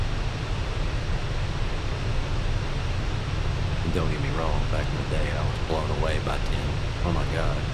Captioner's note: radio chatter